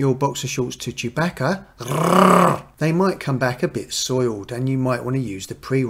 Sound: Chewie GROWL

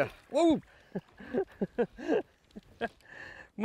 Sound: laughs

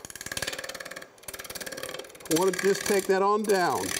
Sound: tool rattling

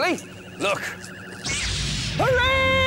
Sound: zap!

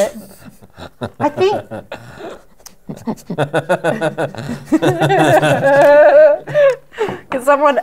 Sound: laughter

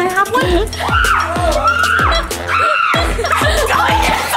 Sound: screaming

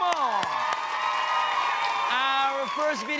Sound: applause

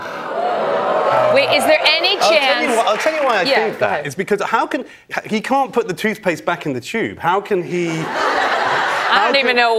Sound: cheers and applause

